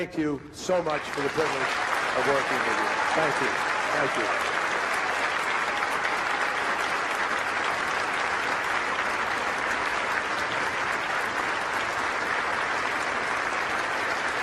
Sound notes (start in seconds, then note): 4.7 crowd applauding